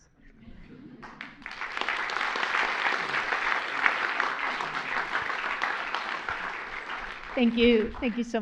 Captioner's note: applause